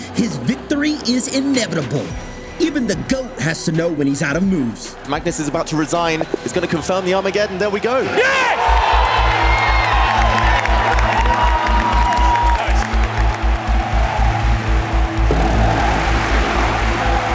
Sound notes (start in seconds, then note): 8.6 dramatic music playing; 9.3 crowd cheering, applauding; 13.6 crowd chanting indistinctly